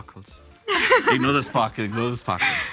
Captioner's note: laughs